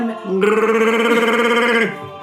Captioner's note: Wookie roar